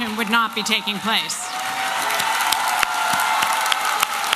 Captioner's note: applause and cheering